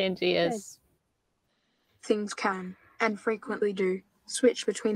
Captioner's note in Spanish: Voz Computarizada